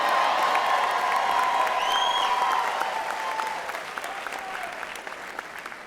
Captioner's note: applause and Cheering